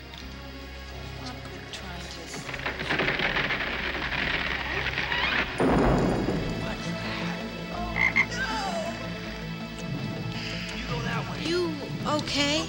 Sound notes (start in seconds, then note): 8.0 frog croaking